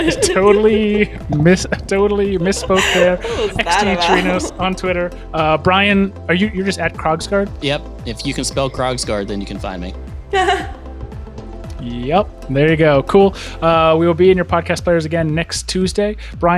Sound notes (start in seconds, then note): 10.3 chuckles